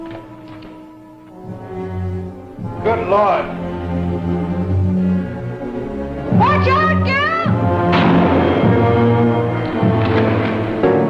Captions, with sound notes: Good lord! - Watch out, Gil! (gun fires)